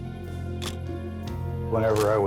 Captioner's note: camera shutter click